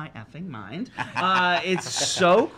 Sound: laughs

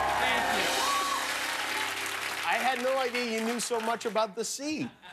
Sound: cheers and applause

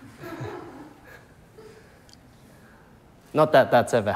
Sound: people chuckling

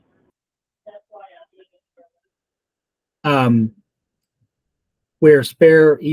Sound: background Discussion

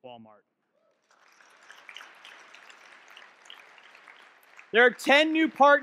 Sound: audience clapping

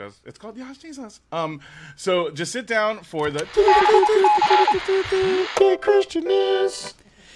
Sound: radio beeping

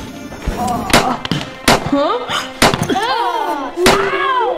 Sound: machine whirring; popping

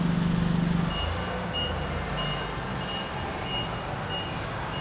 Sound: forklift beeping

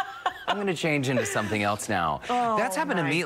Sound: laughter

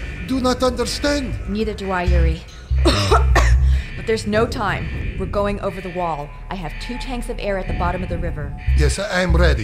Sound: coughs

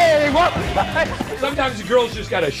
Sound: thud

